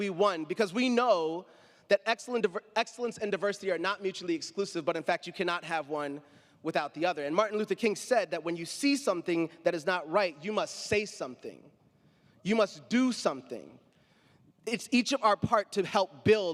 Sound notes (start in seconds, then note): none